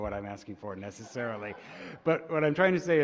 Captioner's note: laughter